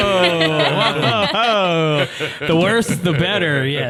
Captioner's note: all laughing